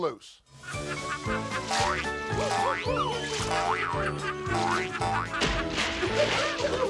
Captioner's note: cheerful circus music; Doink laughing